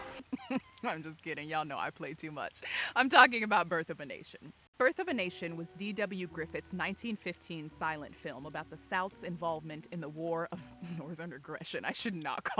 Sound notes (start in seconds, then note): 0.1 laughing